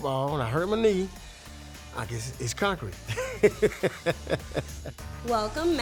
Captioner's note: laughs